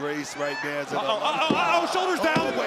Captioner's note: hands thudding